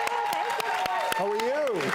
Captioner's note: audience applause